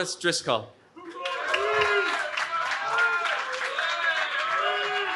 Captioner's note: cheering